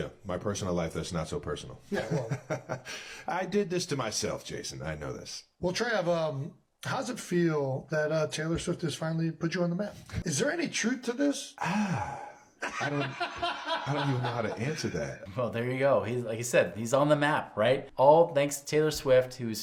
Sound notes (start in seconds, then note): 2.0 Travis laughs; 12.6 laughs